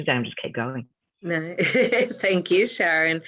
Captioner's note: laughing